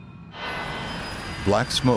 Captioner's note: sinister music; humming